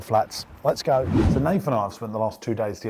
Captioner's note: swooshing noise